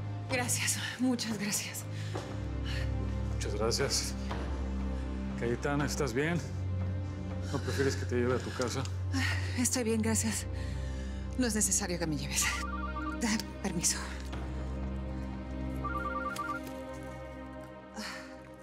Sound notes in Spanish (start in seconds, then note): 12.4 suena el celular; 15.8 sigue sonando el celular